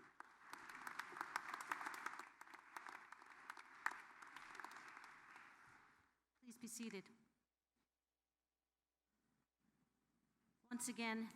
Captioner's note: applause